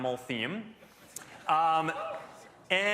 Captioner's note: scattered cheering